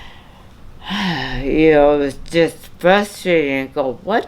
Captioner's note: sighs